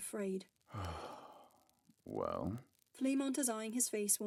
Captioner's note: Fleamont sighs